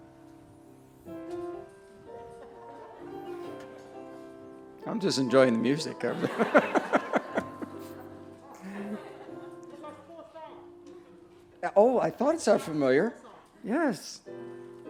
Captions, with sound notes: I'm just enjoying the music/ [ laughs ] Oh, I thought it sounded familiar. yes.